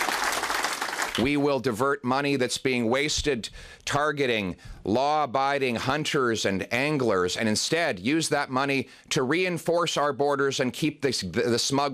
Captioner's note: cheering